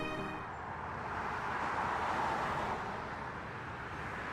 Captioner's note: cars pass